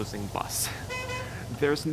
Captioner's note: horn honking